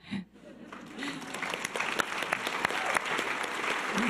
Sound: audience applause

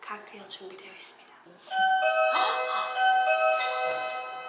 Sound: door bell

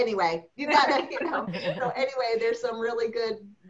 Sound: laughter

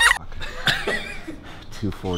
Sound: laughs

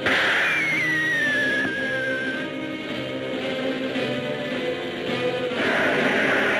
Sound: missile whistling; dramatic orchestral music; planes roaring

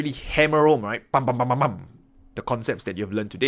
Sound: makes noise with mouth

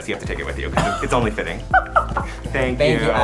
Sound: Laverne laughs

